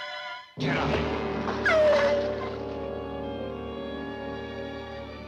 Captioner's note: dog whining